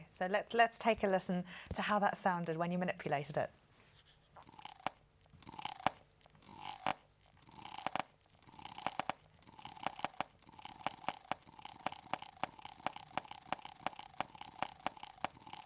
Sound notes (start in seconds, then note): 3.5 rhythmic crunching